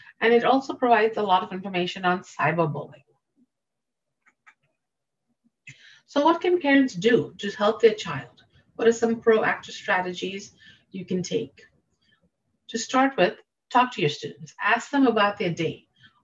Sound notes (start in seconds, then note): 4.2 mouse clicking